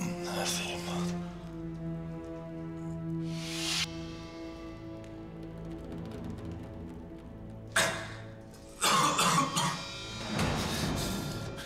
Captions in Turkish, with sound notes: Neredeyim ben? Ih! (Öksürme sesi)